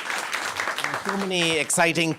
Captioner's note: audience applauding